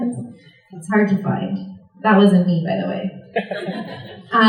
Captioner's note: laughter